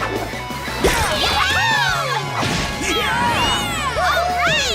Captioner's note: cheering